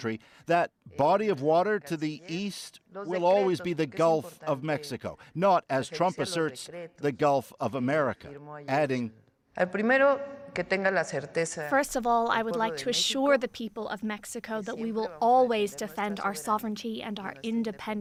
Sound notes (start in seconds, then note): 13.5 speaking spanish